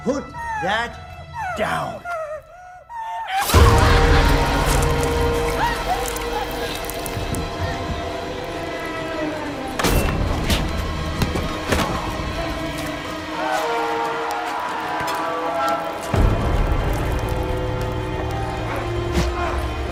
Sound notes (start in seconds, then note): 3.6 tense music; 3.6 woman whimpering; 9.8 blows thudding; 9.8 tense music; 17.3 tense music